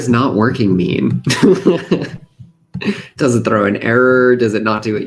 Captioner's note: laughs